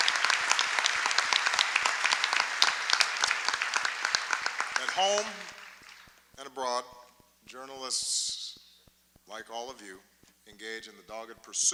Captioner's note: applause